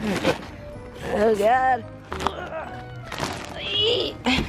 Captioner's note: groan